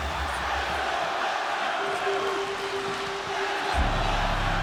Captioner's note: crowd murmuring